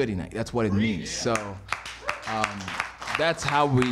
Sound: applause

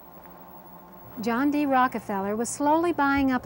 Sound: voiceover

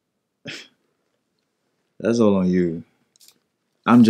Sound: laughs softly

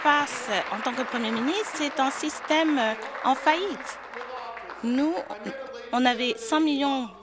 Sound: applause

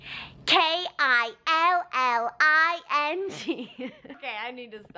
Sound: laugh

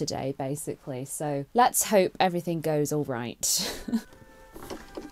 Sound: chuckles; waltz music plays

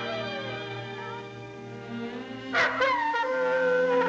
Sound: wolf howling

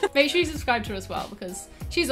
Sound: both laugh

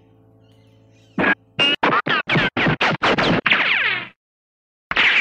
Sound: gun sound

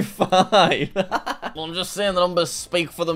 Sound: laughs

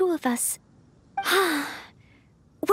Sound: sigh

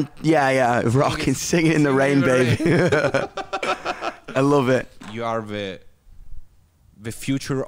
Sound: laughs

